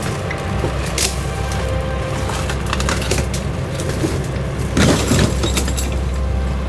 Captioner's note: branches cracking; leaves rustling